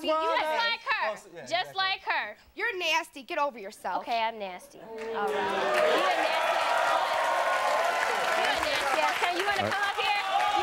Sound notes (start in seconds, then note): 5.1 audience cheering